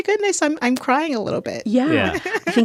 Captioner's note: laughter